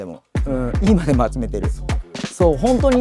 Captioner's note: laughs